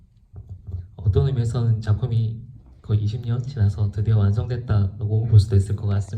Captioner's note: speaks in foreign language